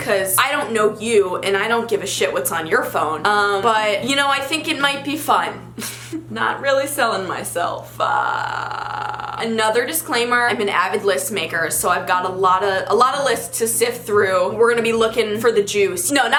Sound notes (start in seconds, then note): 8.0 laughs